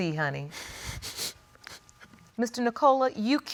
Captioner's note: sniffles